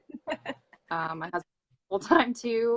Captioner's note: laughs